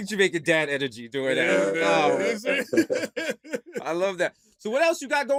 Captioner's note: laughter